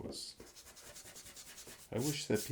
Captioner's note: eraser scratching